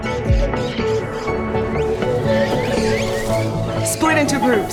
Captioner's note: chirping; fluttering